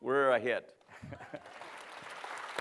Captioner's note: applause; laughs